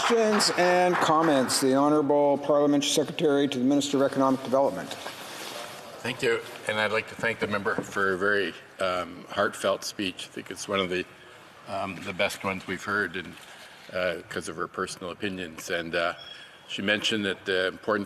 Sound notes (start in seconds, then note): 3.0 applause